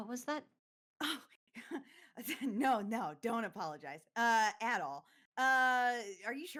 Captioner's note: chuckles